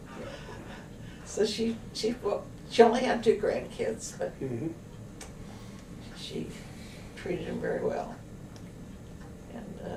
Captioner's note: laughter